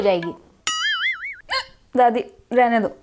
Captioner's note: hiccup